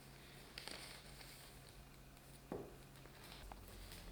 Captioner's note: paper whirring